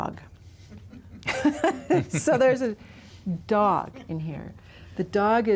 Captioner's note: laughs